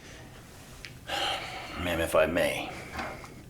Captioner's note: sighs